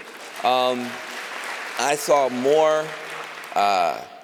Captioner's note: applause